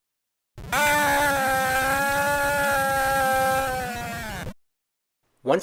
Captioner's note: man screams